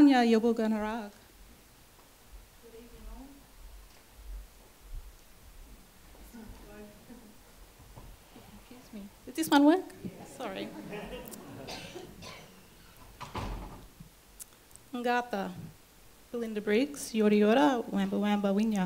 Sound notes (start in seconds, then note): 0.9 speaks in Yorta Yorta language